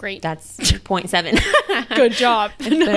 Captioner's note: laughs